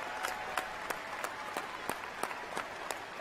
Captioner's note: cheers and applause